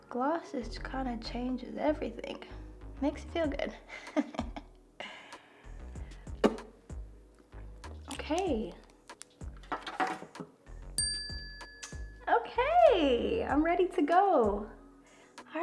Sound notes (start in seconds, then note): 3.8 laughs; 11.0 tone chimes